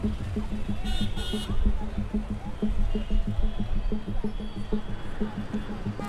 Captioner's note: people chattering; car horns tooting